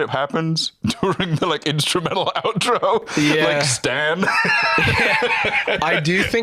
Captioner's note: laughs